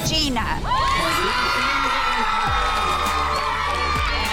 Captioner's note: ladies cheering